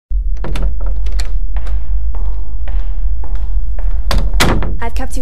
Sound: door opening, footsteps

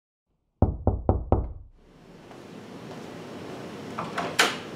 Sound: door Knocking

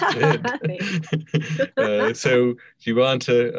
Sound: laughing; laughs

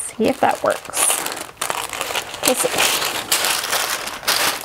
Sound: paper rustling

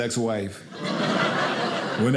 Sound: audience laughing

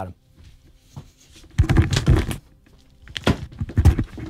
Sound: clattering

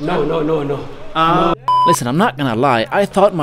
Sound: beep

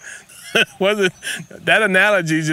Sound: laughs

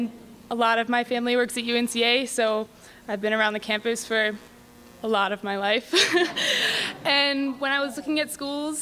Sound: laughs

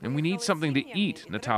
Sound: speaking Foreign Language

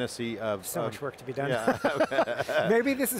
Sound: laughs

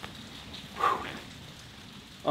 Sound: exhales

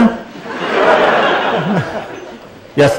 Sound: laughter

